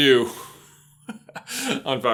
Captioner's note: laughs